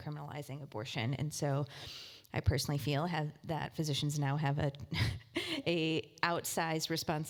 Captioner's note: laugh